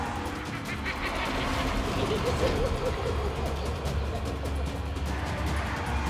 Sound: clown laughs

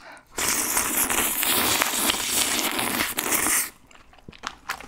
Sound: slurping💕

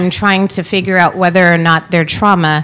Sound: none

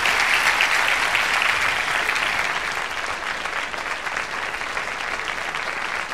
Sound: applause

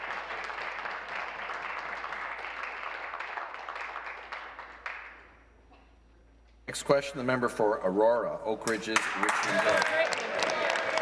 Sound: applause

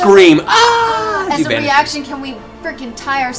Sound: ahhh

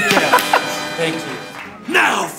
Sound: applause

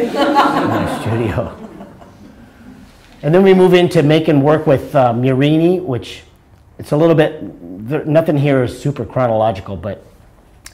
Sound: laughter

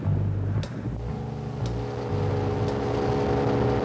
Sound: engine humming

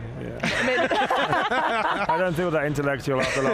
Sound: all laughing loudly

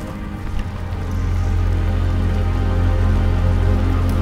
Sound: fire crackling

